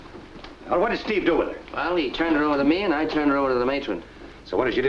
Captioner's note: none